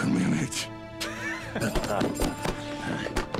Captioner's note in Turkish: Gülme sesi